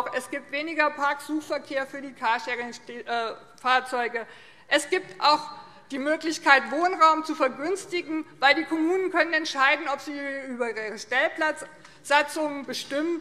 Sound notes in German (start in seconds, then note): none